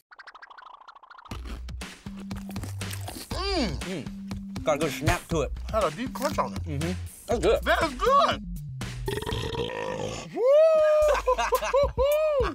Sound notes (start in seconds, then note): 1.4 pop beat; 9.0 burping; 10.8 laughs